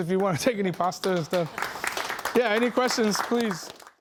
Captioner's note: applause